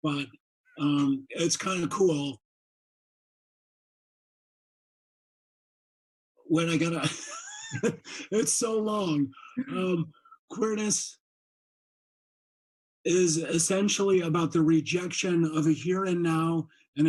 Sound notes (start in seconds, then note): 6.6 laughs